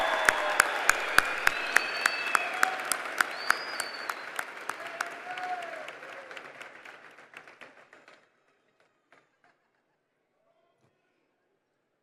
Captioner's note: applause